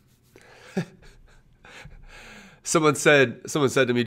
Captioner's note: laughs